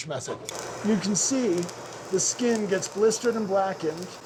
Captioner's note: chili sizzling